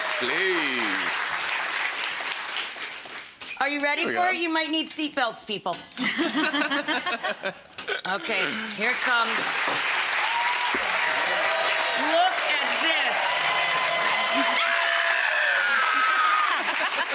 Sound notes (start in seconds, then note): 6.1 chefs and audience laugh; 9.6 audience cheering; 14.2 shrieks